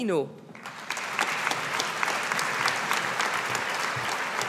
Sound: audience applauding

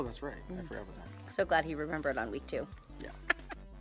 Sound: laughs

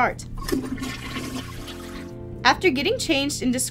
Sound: toilet flushing

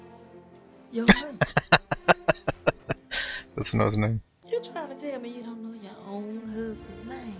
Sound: laughing

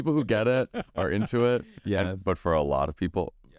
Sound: laughs

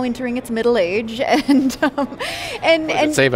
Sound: giggling

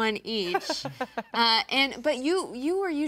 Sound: laughing

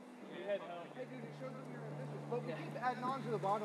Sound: voices chattering

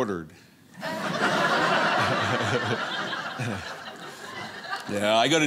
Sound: audience laughing

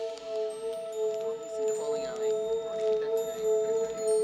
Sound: crowd talking

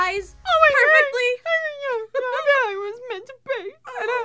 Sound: crying; laughter

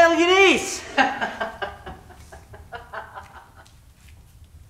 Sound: laughter

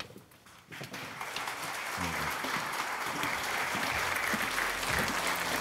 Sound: audience applauds

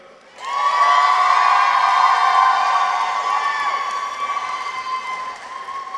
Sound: audience applauds; people cheer

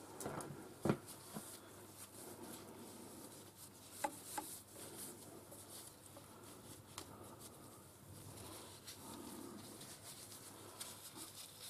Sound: more wiping noises

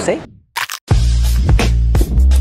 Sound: munching

